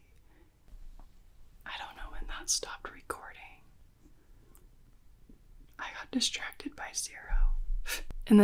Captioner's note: whispers